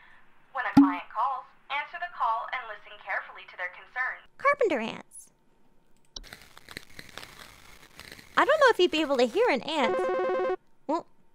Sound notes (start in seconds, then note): 6.2 crunchy ant noises; 9.8 digital phone ringing